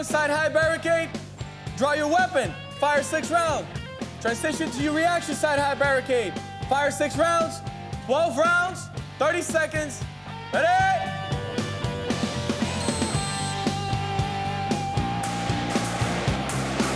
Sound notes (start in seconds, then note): 12.5 whistles